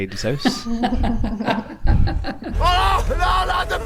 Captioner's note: laughter